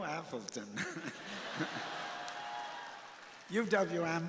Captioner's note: laughing; crowd laughing